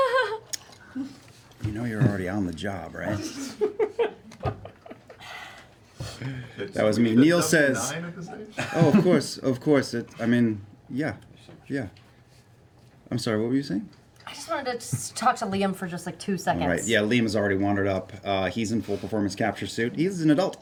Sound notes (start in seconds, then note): 0.0 nervous laugh; 1.8 whispers